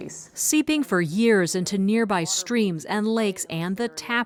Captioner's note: voice-over